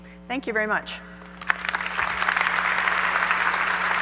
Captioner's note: applause